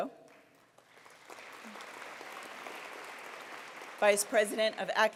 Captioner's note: applause